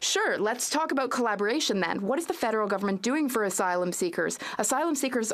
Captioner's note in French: voix de l'interprète